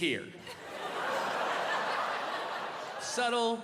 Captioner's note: audience laughing